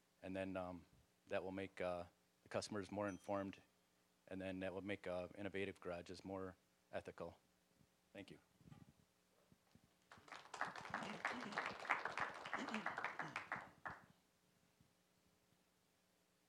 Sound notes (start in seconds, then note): 3.4 bell dinging; 10.0 applause